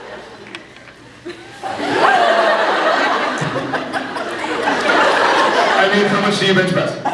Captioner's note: laughs